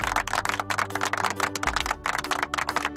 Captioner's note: applause